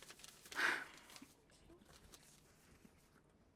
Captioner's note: sighing